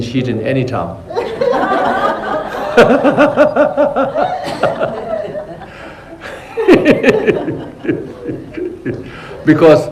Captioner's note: laughter